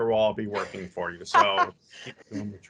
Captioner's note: laughs